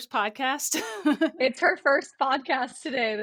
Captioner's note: laughs